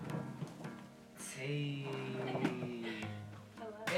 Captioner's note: laughing